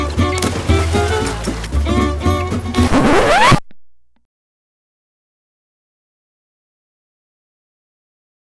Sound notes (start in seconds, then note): 2.8 record scratch